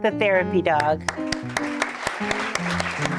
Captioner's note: applause